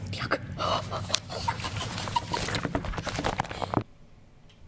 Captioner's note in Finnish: Hihitystä